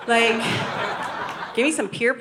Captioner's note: audience laughing